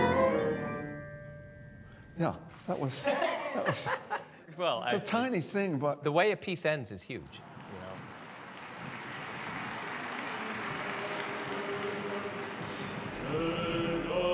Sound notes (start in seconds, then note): 2.9 laughter; 8.0 clapping; 13.7 chanting